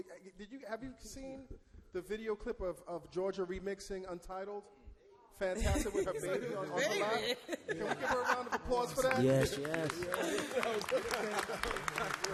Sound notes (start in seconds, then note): 7.0 laughs; 8.9 all clap